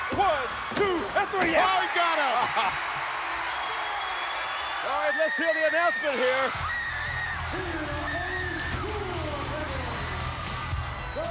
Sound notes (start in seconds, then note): 2.7 bell ringing; 2.7 crowd cheering